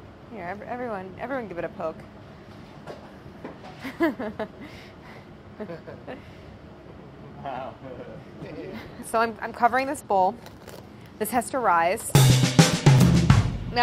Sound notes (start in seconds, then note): 3.8 chuckles; 7.7 all chuckling; 12.1 upbeat jazzy music